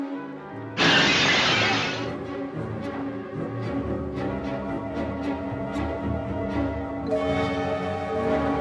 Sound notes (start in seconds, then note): 0.8 glass shattering; 2.6 dramatic eerie music